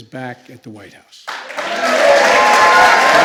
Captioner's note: applause